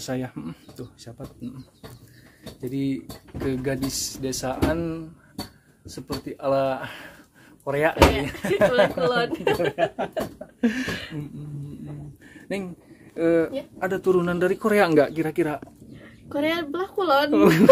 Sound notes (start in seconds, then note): 8.3 laughs